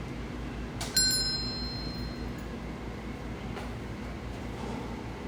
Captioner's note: door chime rings